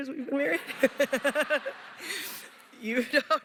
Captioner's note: laughter